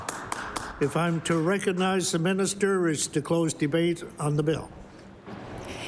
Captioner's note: applause